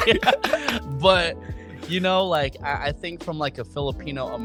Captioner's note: laughing